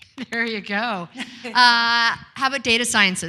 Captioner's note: claps and giggles